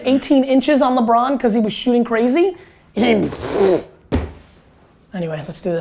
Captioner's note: blows raspberry